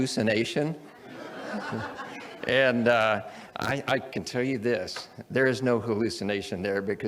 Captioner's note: audience laughs